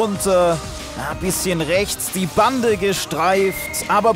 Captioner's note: Pfiff